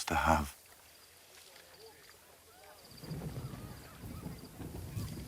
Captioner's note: thunder rumbles in distance